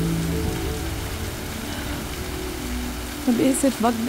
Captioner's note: Exhales sharply